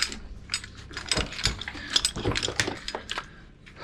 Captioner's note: clanking